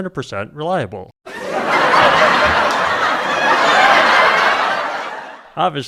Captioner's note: laugh track sound effect